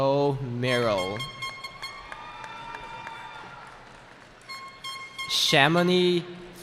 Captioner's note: cheering